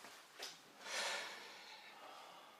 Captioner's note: sighs